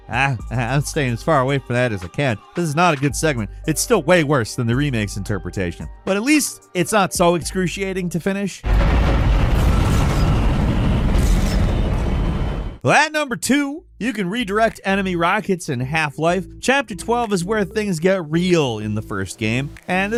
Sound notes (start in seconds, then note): 8.6 loud explosion